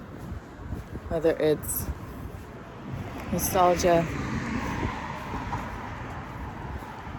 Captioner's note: vehicle passes